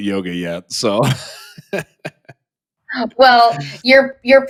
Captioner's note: laughs